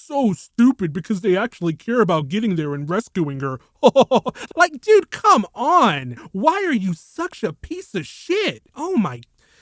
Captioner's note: sigh